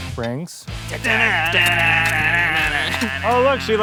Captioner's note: imitating guitar riffs